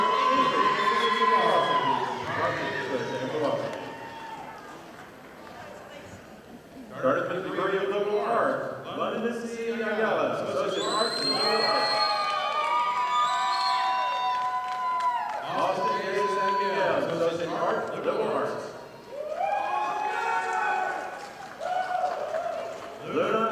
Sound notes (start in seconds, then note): 12.7 audience applauding; 19.0 audience applauding